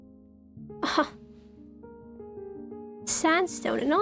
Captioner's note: ROSE scoffs